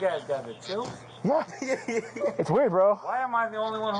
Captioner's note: laughs